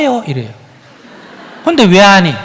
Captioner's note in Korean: 청중 웃음